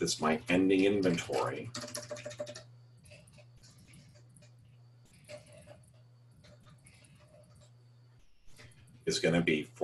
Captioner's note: typing Sounds